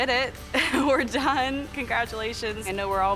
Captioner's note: laugh